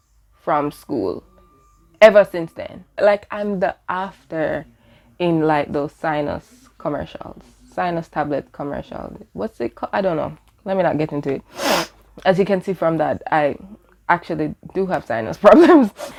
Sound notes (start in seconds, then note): 11.4 sniffles